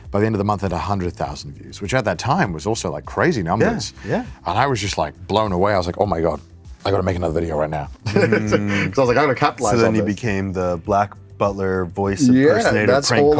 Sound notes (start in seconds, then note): 8.0 laughs